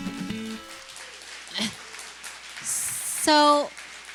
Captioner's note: applause